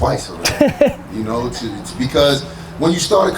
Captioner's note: laughs